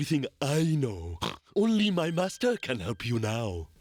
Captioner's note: snorts